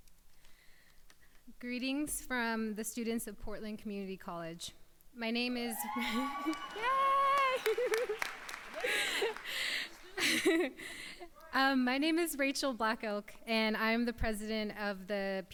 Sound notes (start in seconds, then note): 5.6 crowd cheers; 8.9 laughs